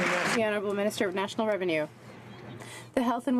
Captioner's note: some Applause